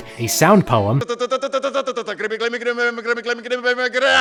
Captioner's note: murmurs